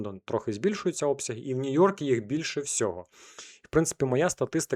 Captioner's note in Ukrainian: сопіння